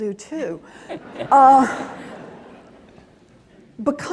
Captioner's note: laughing